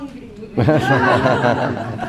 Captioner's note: laughing